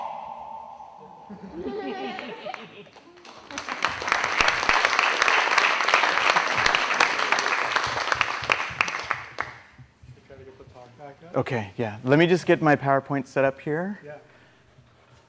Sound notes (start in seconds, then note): 1.3 laughter; 2.1 applause